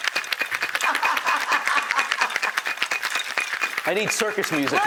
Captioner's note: laughing